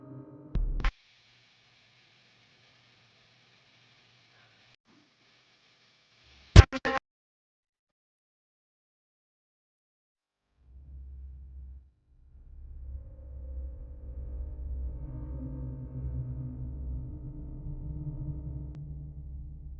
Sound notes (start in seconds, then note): 0.6 static humming; 0.8 static crackles; 7.0 brooding music; 7.0 static crackles